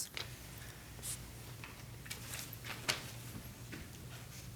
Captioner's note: paper ruffling